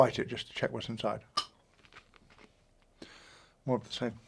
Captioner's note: candy cracking